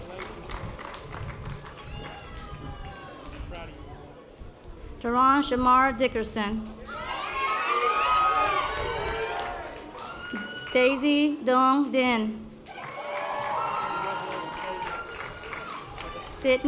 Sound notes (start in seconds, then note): 7.4 audience applause